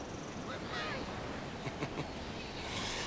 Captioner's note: chuckling